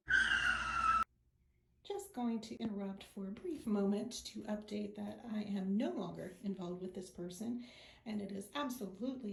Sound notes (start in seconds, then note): 0.0 screeching brakes